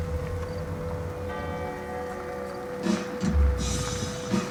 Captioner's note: sound of church bells; sound of car radio playing